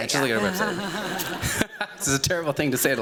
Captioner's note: laughing